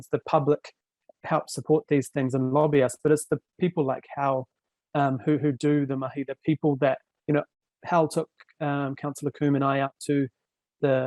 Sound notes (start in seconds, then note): none